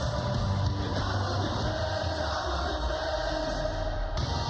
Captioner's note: crowd cheering